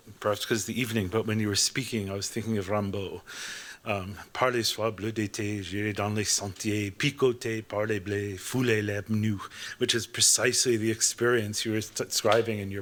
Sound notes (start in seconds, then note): 6.1 non-english speech